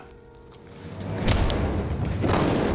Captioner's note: thud; rifle shot fired